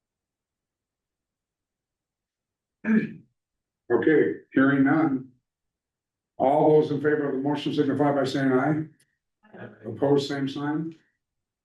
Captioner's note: clears throat